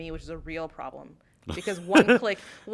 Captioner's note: laughter